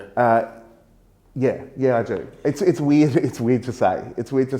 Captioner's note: chuckles